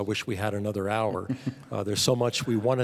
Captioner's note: panelists chuckling